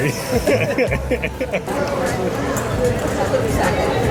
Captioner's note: laughs